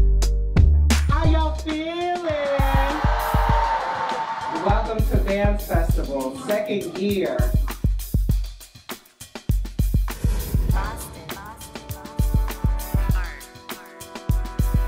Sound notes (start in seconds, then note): 2.5 audience cheers